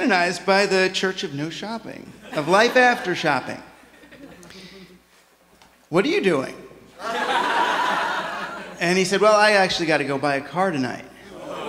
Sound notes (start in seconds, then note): 7.0 laughter